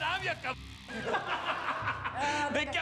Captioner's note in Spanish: risas